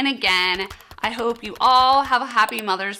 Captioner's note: keyboard clacking; mouse clicking